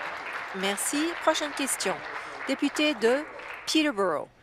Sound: applause

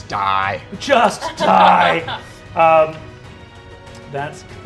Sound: players laughing

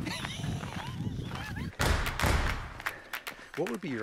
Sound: laughs

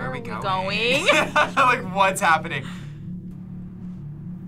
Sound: laughs

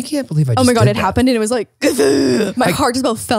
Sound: gasping

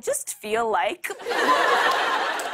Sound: laughter

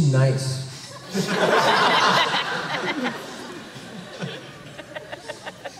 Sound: laughter

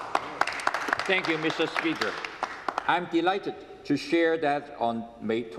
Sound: applause

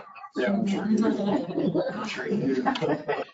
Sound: chuckling

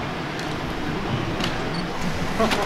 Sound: smack

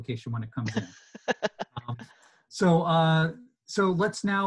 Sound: chuckling

